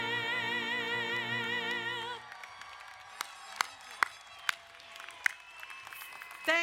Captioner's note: crowd cheering and applauding